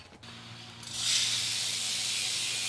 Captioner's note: machine whirring